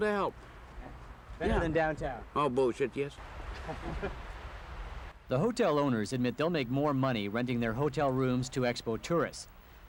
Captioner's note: laughter